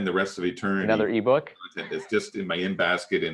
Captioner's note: chuckles